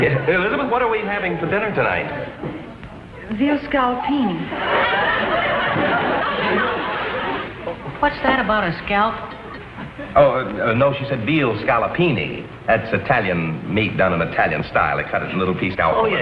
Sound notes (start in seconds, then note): 3.8 audience laughs